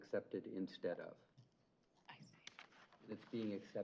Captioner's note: whispers